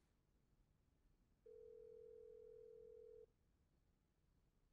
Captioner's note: phone ringing